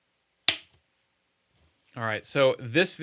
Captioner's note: clapperboard clicking